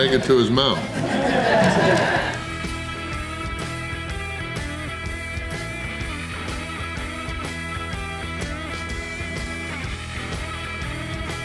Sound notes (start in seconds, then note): 0.0 crowd laughter